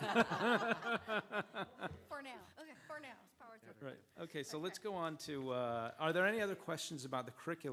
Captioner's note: laughter